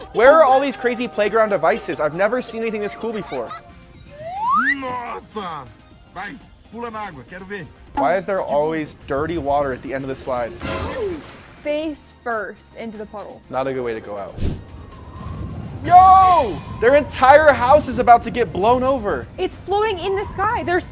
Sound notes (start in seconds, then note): 4.4 dad speaking in foreign language